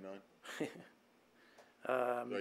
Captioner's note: laughter